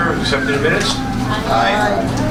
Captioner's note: A chorus of ayes